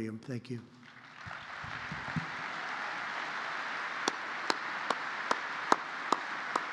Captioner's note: applause